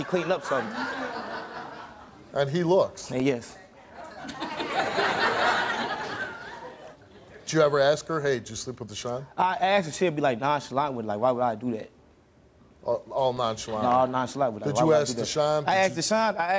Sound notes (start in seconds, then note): 1.7 laughing; 4.7 laughing